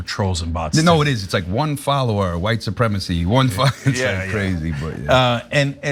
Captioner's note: laugh